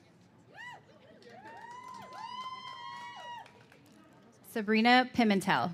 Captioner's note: cheers and applause